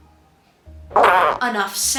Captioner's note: fart noise